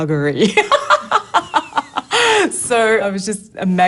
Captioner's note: laughs